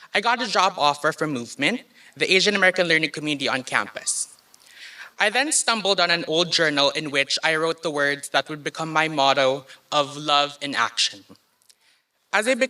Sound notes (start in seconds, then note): none